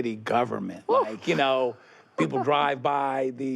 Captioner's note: laughs